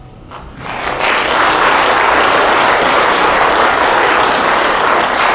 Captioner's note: applause